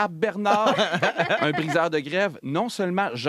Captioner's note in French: rires